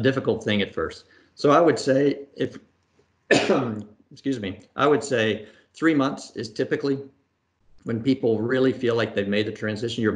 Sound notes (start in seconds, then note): 3.3 coughs